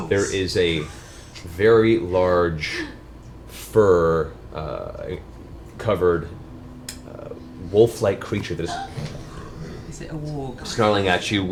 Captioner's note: snarls